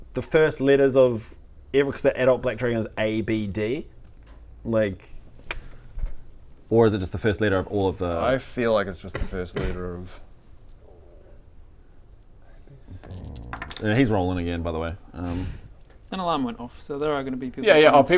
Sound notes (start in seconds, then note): 11.0 quiet concentration; 13.0 dice shaking